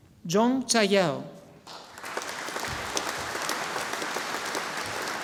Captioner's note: audience applauding